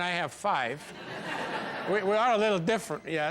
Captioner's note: audience laughs